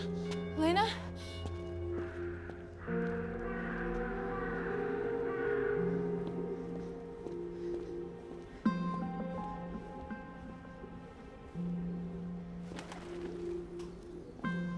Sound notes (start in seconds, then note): 2.9 raven cawing; 10.0 dramatic orchestral music continues